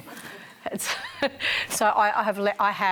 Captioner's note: laughs